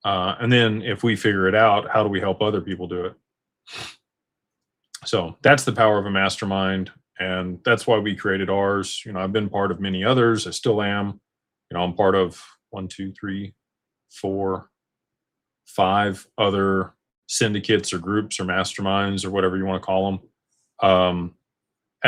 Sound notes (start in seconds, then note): 4.5 snorts